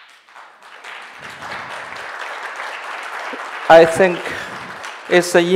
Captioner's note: audience clapping